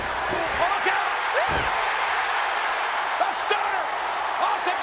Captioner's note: crowd cheering